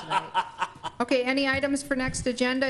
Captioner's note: laughs